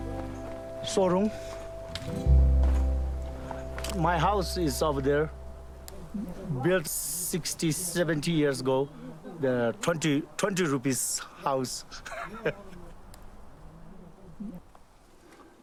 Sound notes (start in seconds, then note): 10.6 laughs